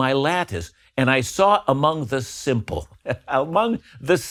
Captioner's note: laughs